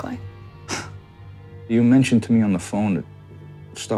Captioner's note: exhale